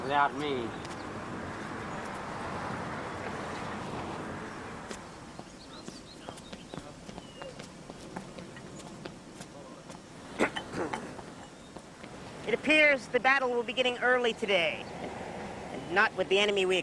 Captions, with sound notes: Without me. (footsteps) (water running) - (clearing throat) It appears the battle will begin early today. And not with the enemy we expected.